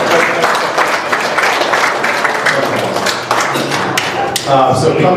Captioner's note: laughter; applause